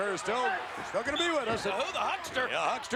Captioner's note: referee whistling